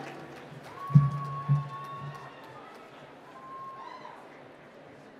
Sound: applause

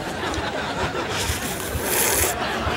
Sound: slurping

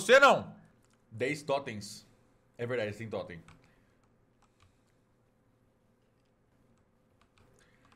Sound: in Portuguese; silence

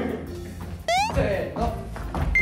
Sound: sound effect:hoping

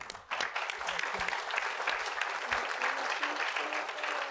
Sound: applause

